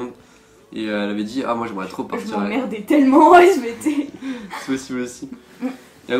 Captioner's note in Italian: ridere